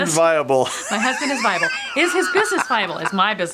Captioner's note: laughs